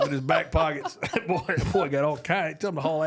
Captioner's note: laughs